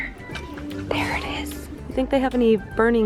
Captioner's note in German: flüstert